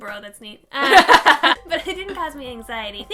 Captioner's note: laughing